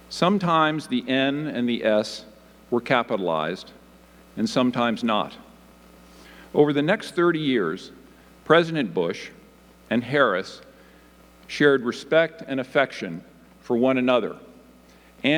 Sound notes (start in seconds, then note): none